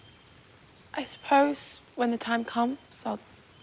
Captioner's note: none